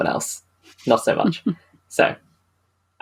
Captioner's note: laughs